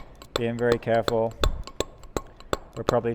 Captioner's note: metal hammering